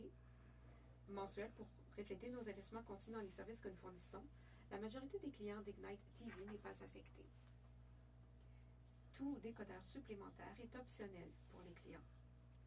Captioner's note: speaking French